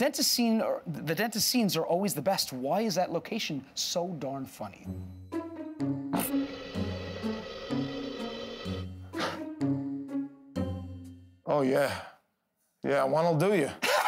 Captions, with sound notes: "The dentist scenes are always the best. Why is that location so darn funny?" [ Air hisses ] [ Darth Vader-like inhale ] Oh, yeah. Yeah, one'll do you.